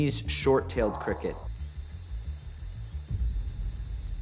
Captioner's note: chirping